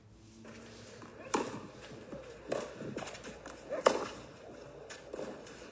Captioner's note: tennis ball hitting racket